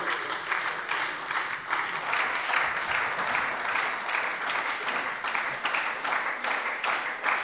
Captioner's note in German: Beifall bei der SPD